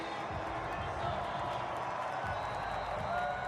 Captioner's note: pa announcement; whistle blows